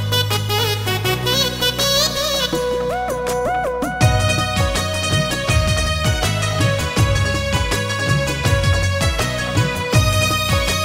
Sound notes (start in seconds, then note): none